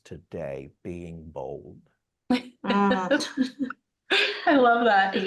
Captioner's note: both laughing